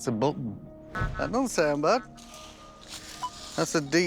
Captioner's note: beeping